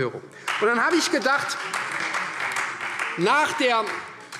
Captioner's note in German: Beifall Freie Demokraten